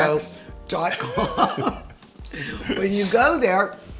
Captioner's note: laughs